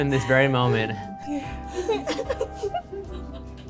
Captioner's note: laughs